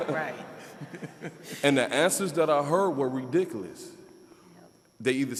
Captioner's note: all laughing